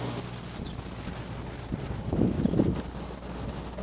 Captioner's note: wind blowing